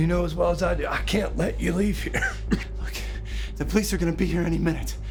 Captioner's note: coughs